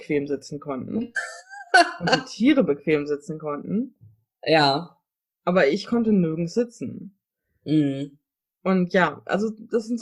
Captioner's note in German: lacht